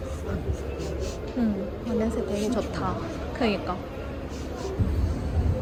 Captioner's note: sniff sniff